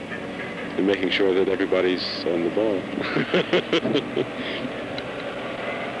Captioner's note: laughs